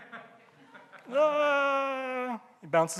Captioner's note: audience laughing